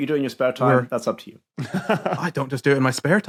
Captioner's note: laughs